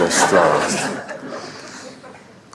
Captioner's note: laughter